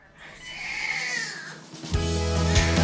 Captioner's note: baby crying; triumphant music